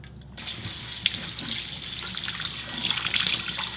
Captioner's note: water flowing